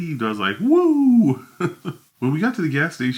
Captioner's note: laughs